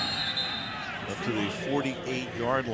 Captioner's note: whistle blows